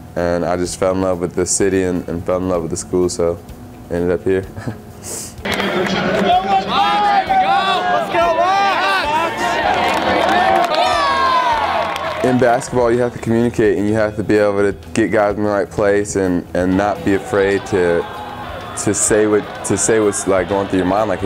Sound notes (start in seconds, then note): 4.5 laughs; 5.4 crowd cheering